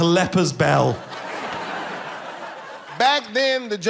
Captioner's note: people laughing